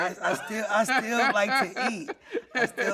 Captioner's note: laughing